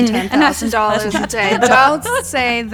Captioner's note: all laugh